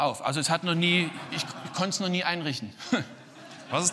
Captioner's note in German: Publikum lacht